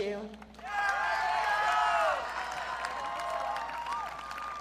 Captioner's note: audience cheering